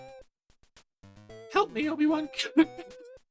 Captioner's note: laughs at absurdly high-pitched voice